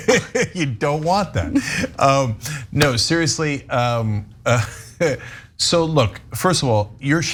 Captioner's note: laugh